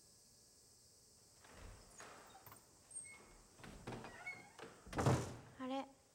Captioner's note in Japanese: ドアが開く音